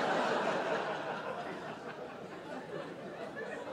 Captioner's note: audience laughing